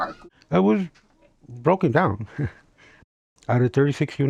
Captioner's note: laughs